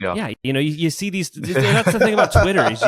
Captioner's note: laughs